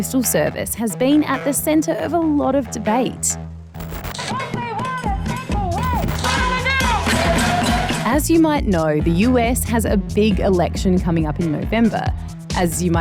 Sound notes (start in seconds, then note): 5.1 protesters chant